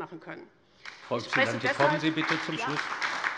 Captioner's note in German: Beifall bei der LINKEN und bei Abgeordneten der SPD